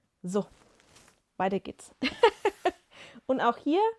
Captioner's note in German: gelächter